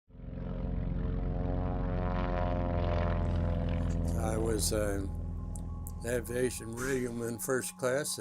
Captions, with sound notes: (airplanes flying) - I was an Aviation Radioman, First Class,